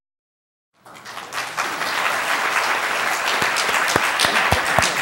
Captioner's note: applause